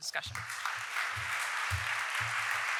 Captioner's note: applause